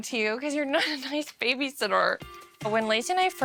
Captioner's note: laughing